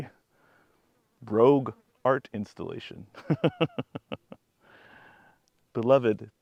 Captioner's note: laughs